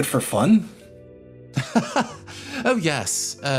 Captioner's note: Gartrinus Laugh